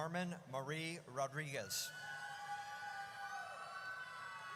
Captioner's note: audience cheers